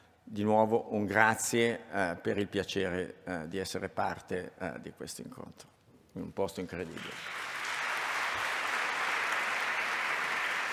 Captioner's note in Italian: Applauso